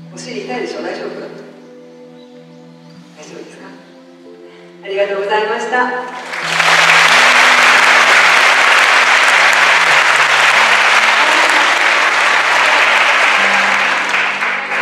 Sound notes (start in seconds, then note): 7.5 applause